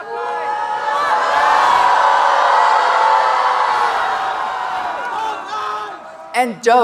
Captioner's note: audience cheering and applauding; audience booing